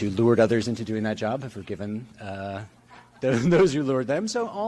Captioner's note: chuckling